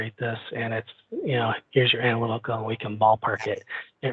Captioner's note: faintly speaking